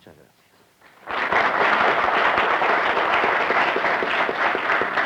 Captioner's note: aplausos